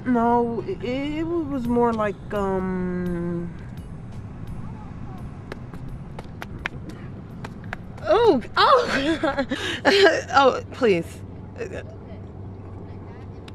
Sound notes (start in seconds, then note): 6.1 slapping noises